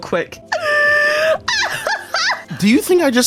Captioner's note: wheezing / laughter / sobbing